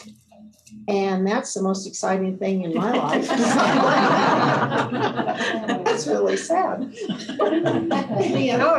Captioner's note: laughter